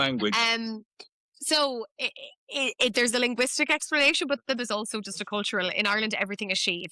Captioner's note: laughs